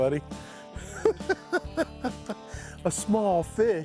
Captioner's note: laughs